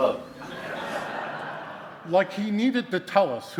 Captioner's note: audience laughing